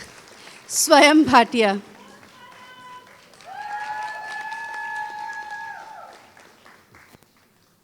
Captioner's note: applause; applause